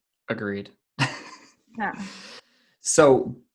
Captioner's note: laughs